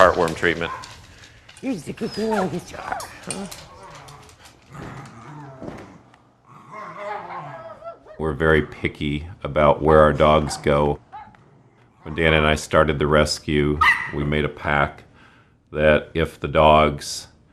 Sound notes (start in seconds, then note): 6.6 baby voice; 11.2 growling